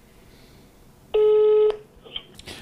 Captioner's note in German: Freizeichen